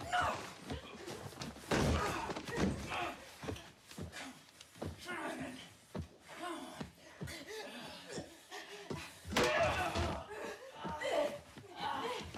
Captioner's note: gunfire